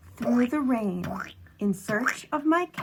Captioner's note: imitating squelching feet